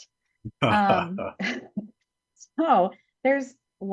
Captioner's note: both laugh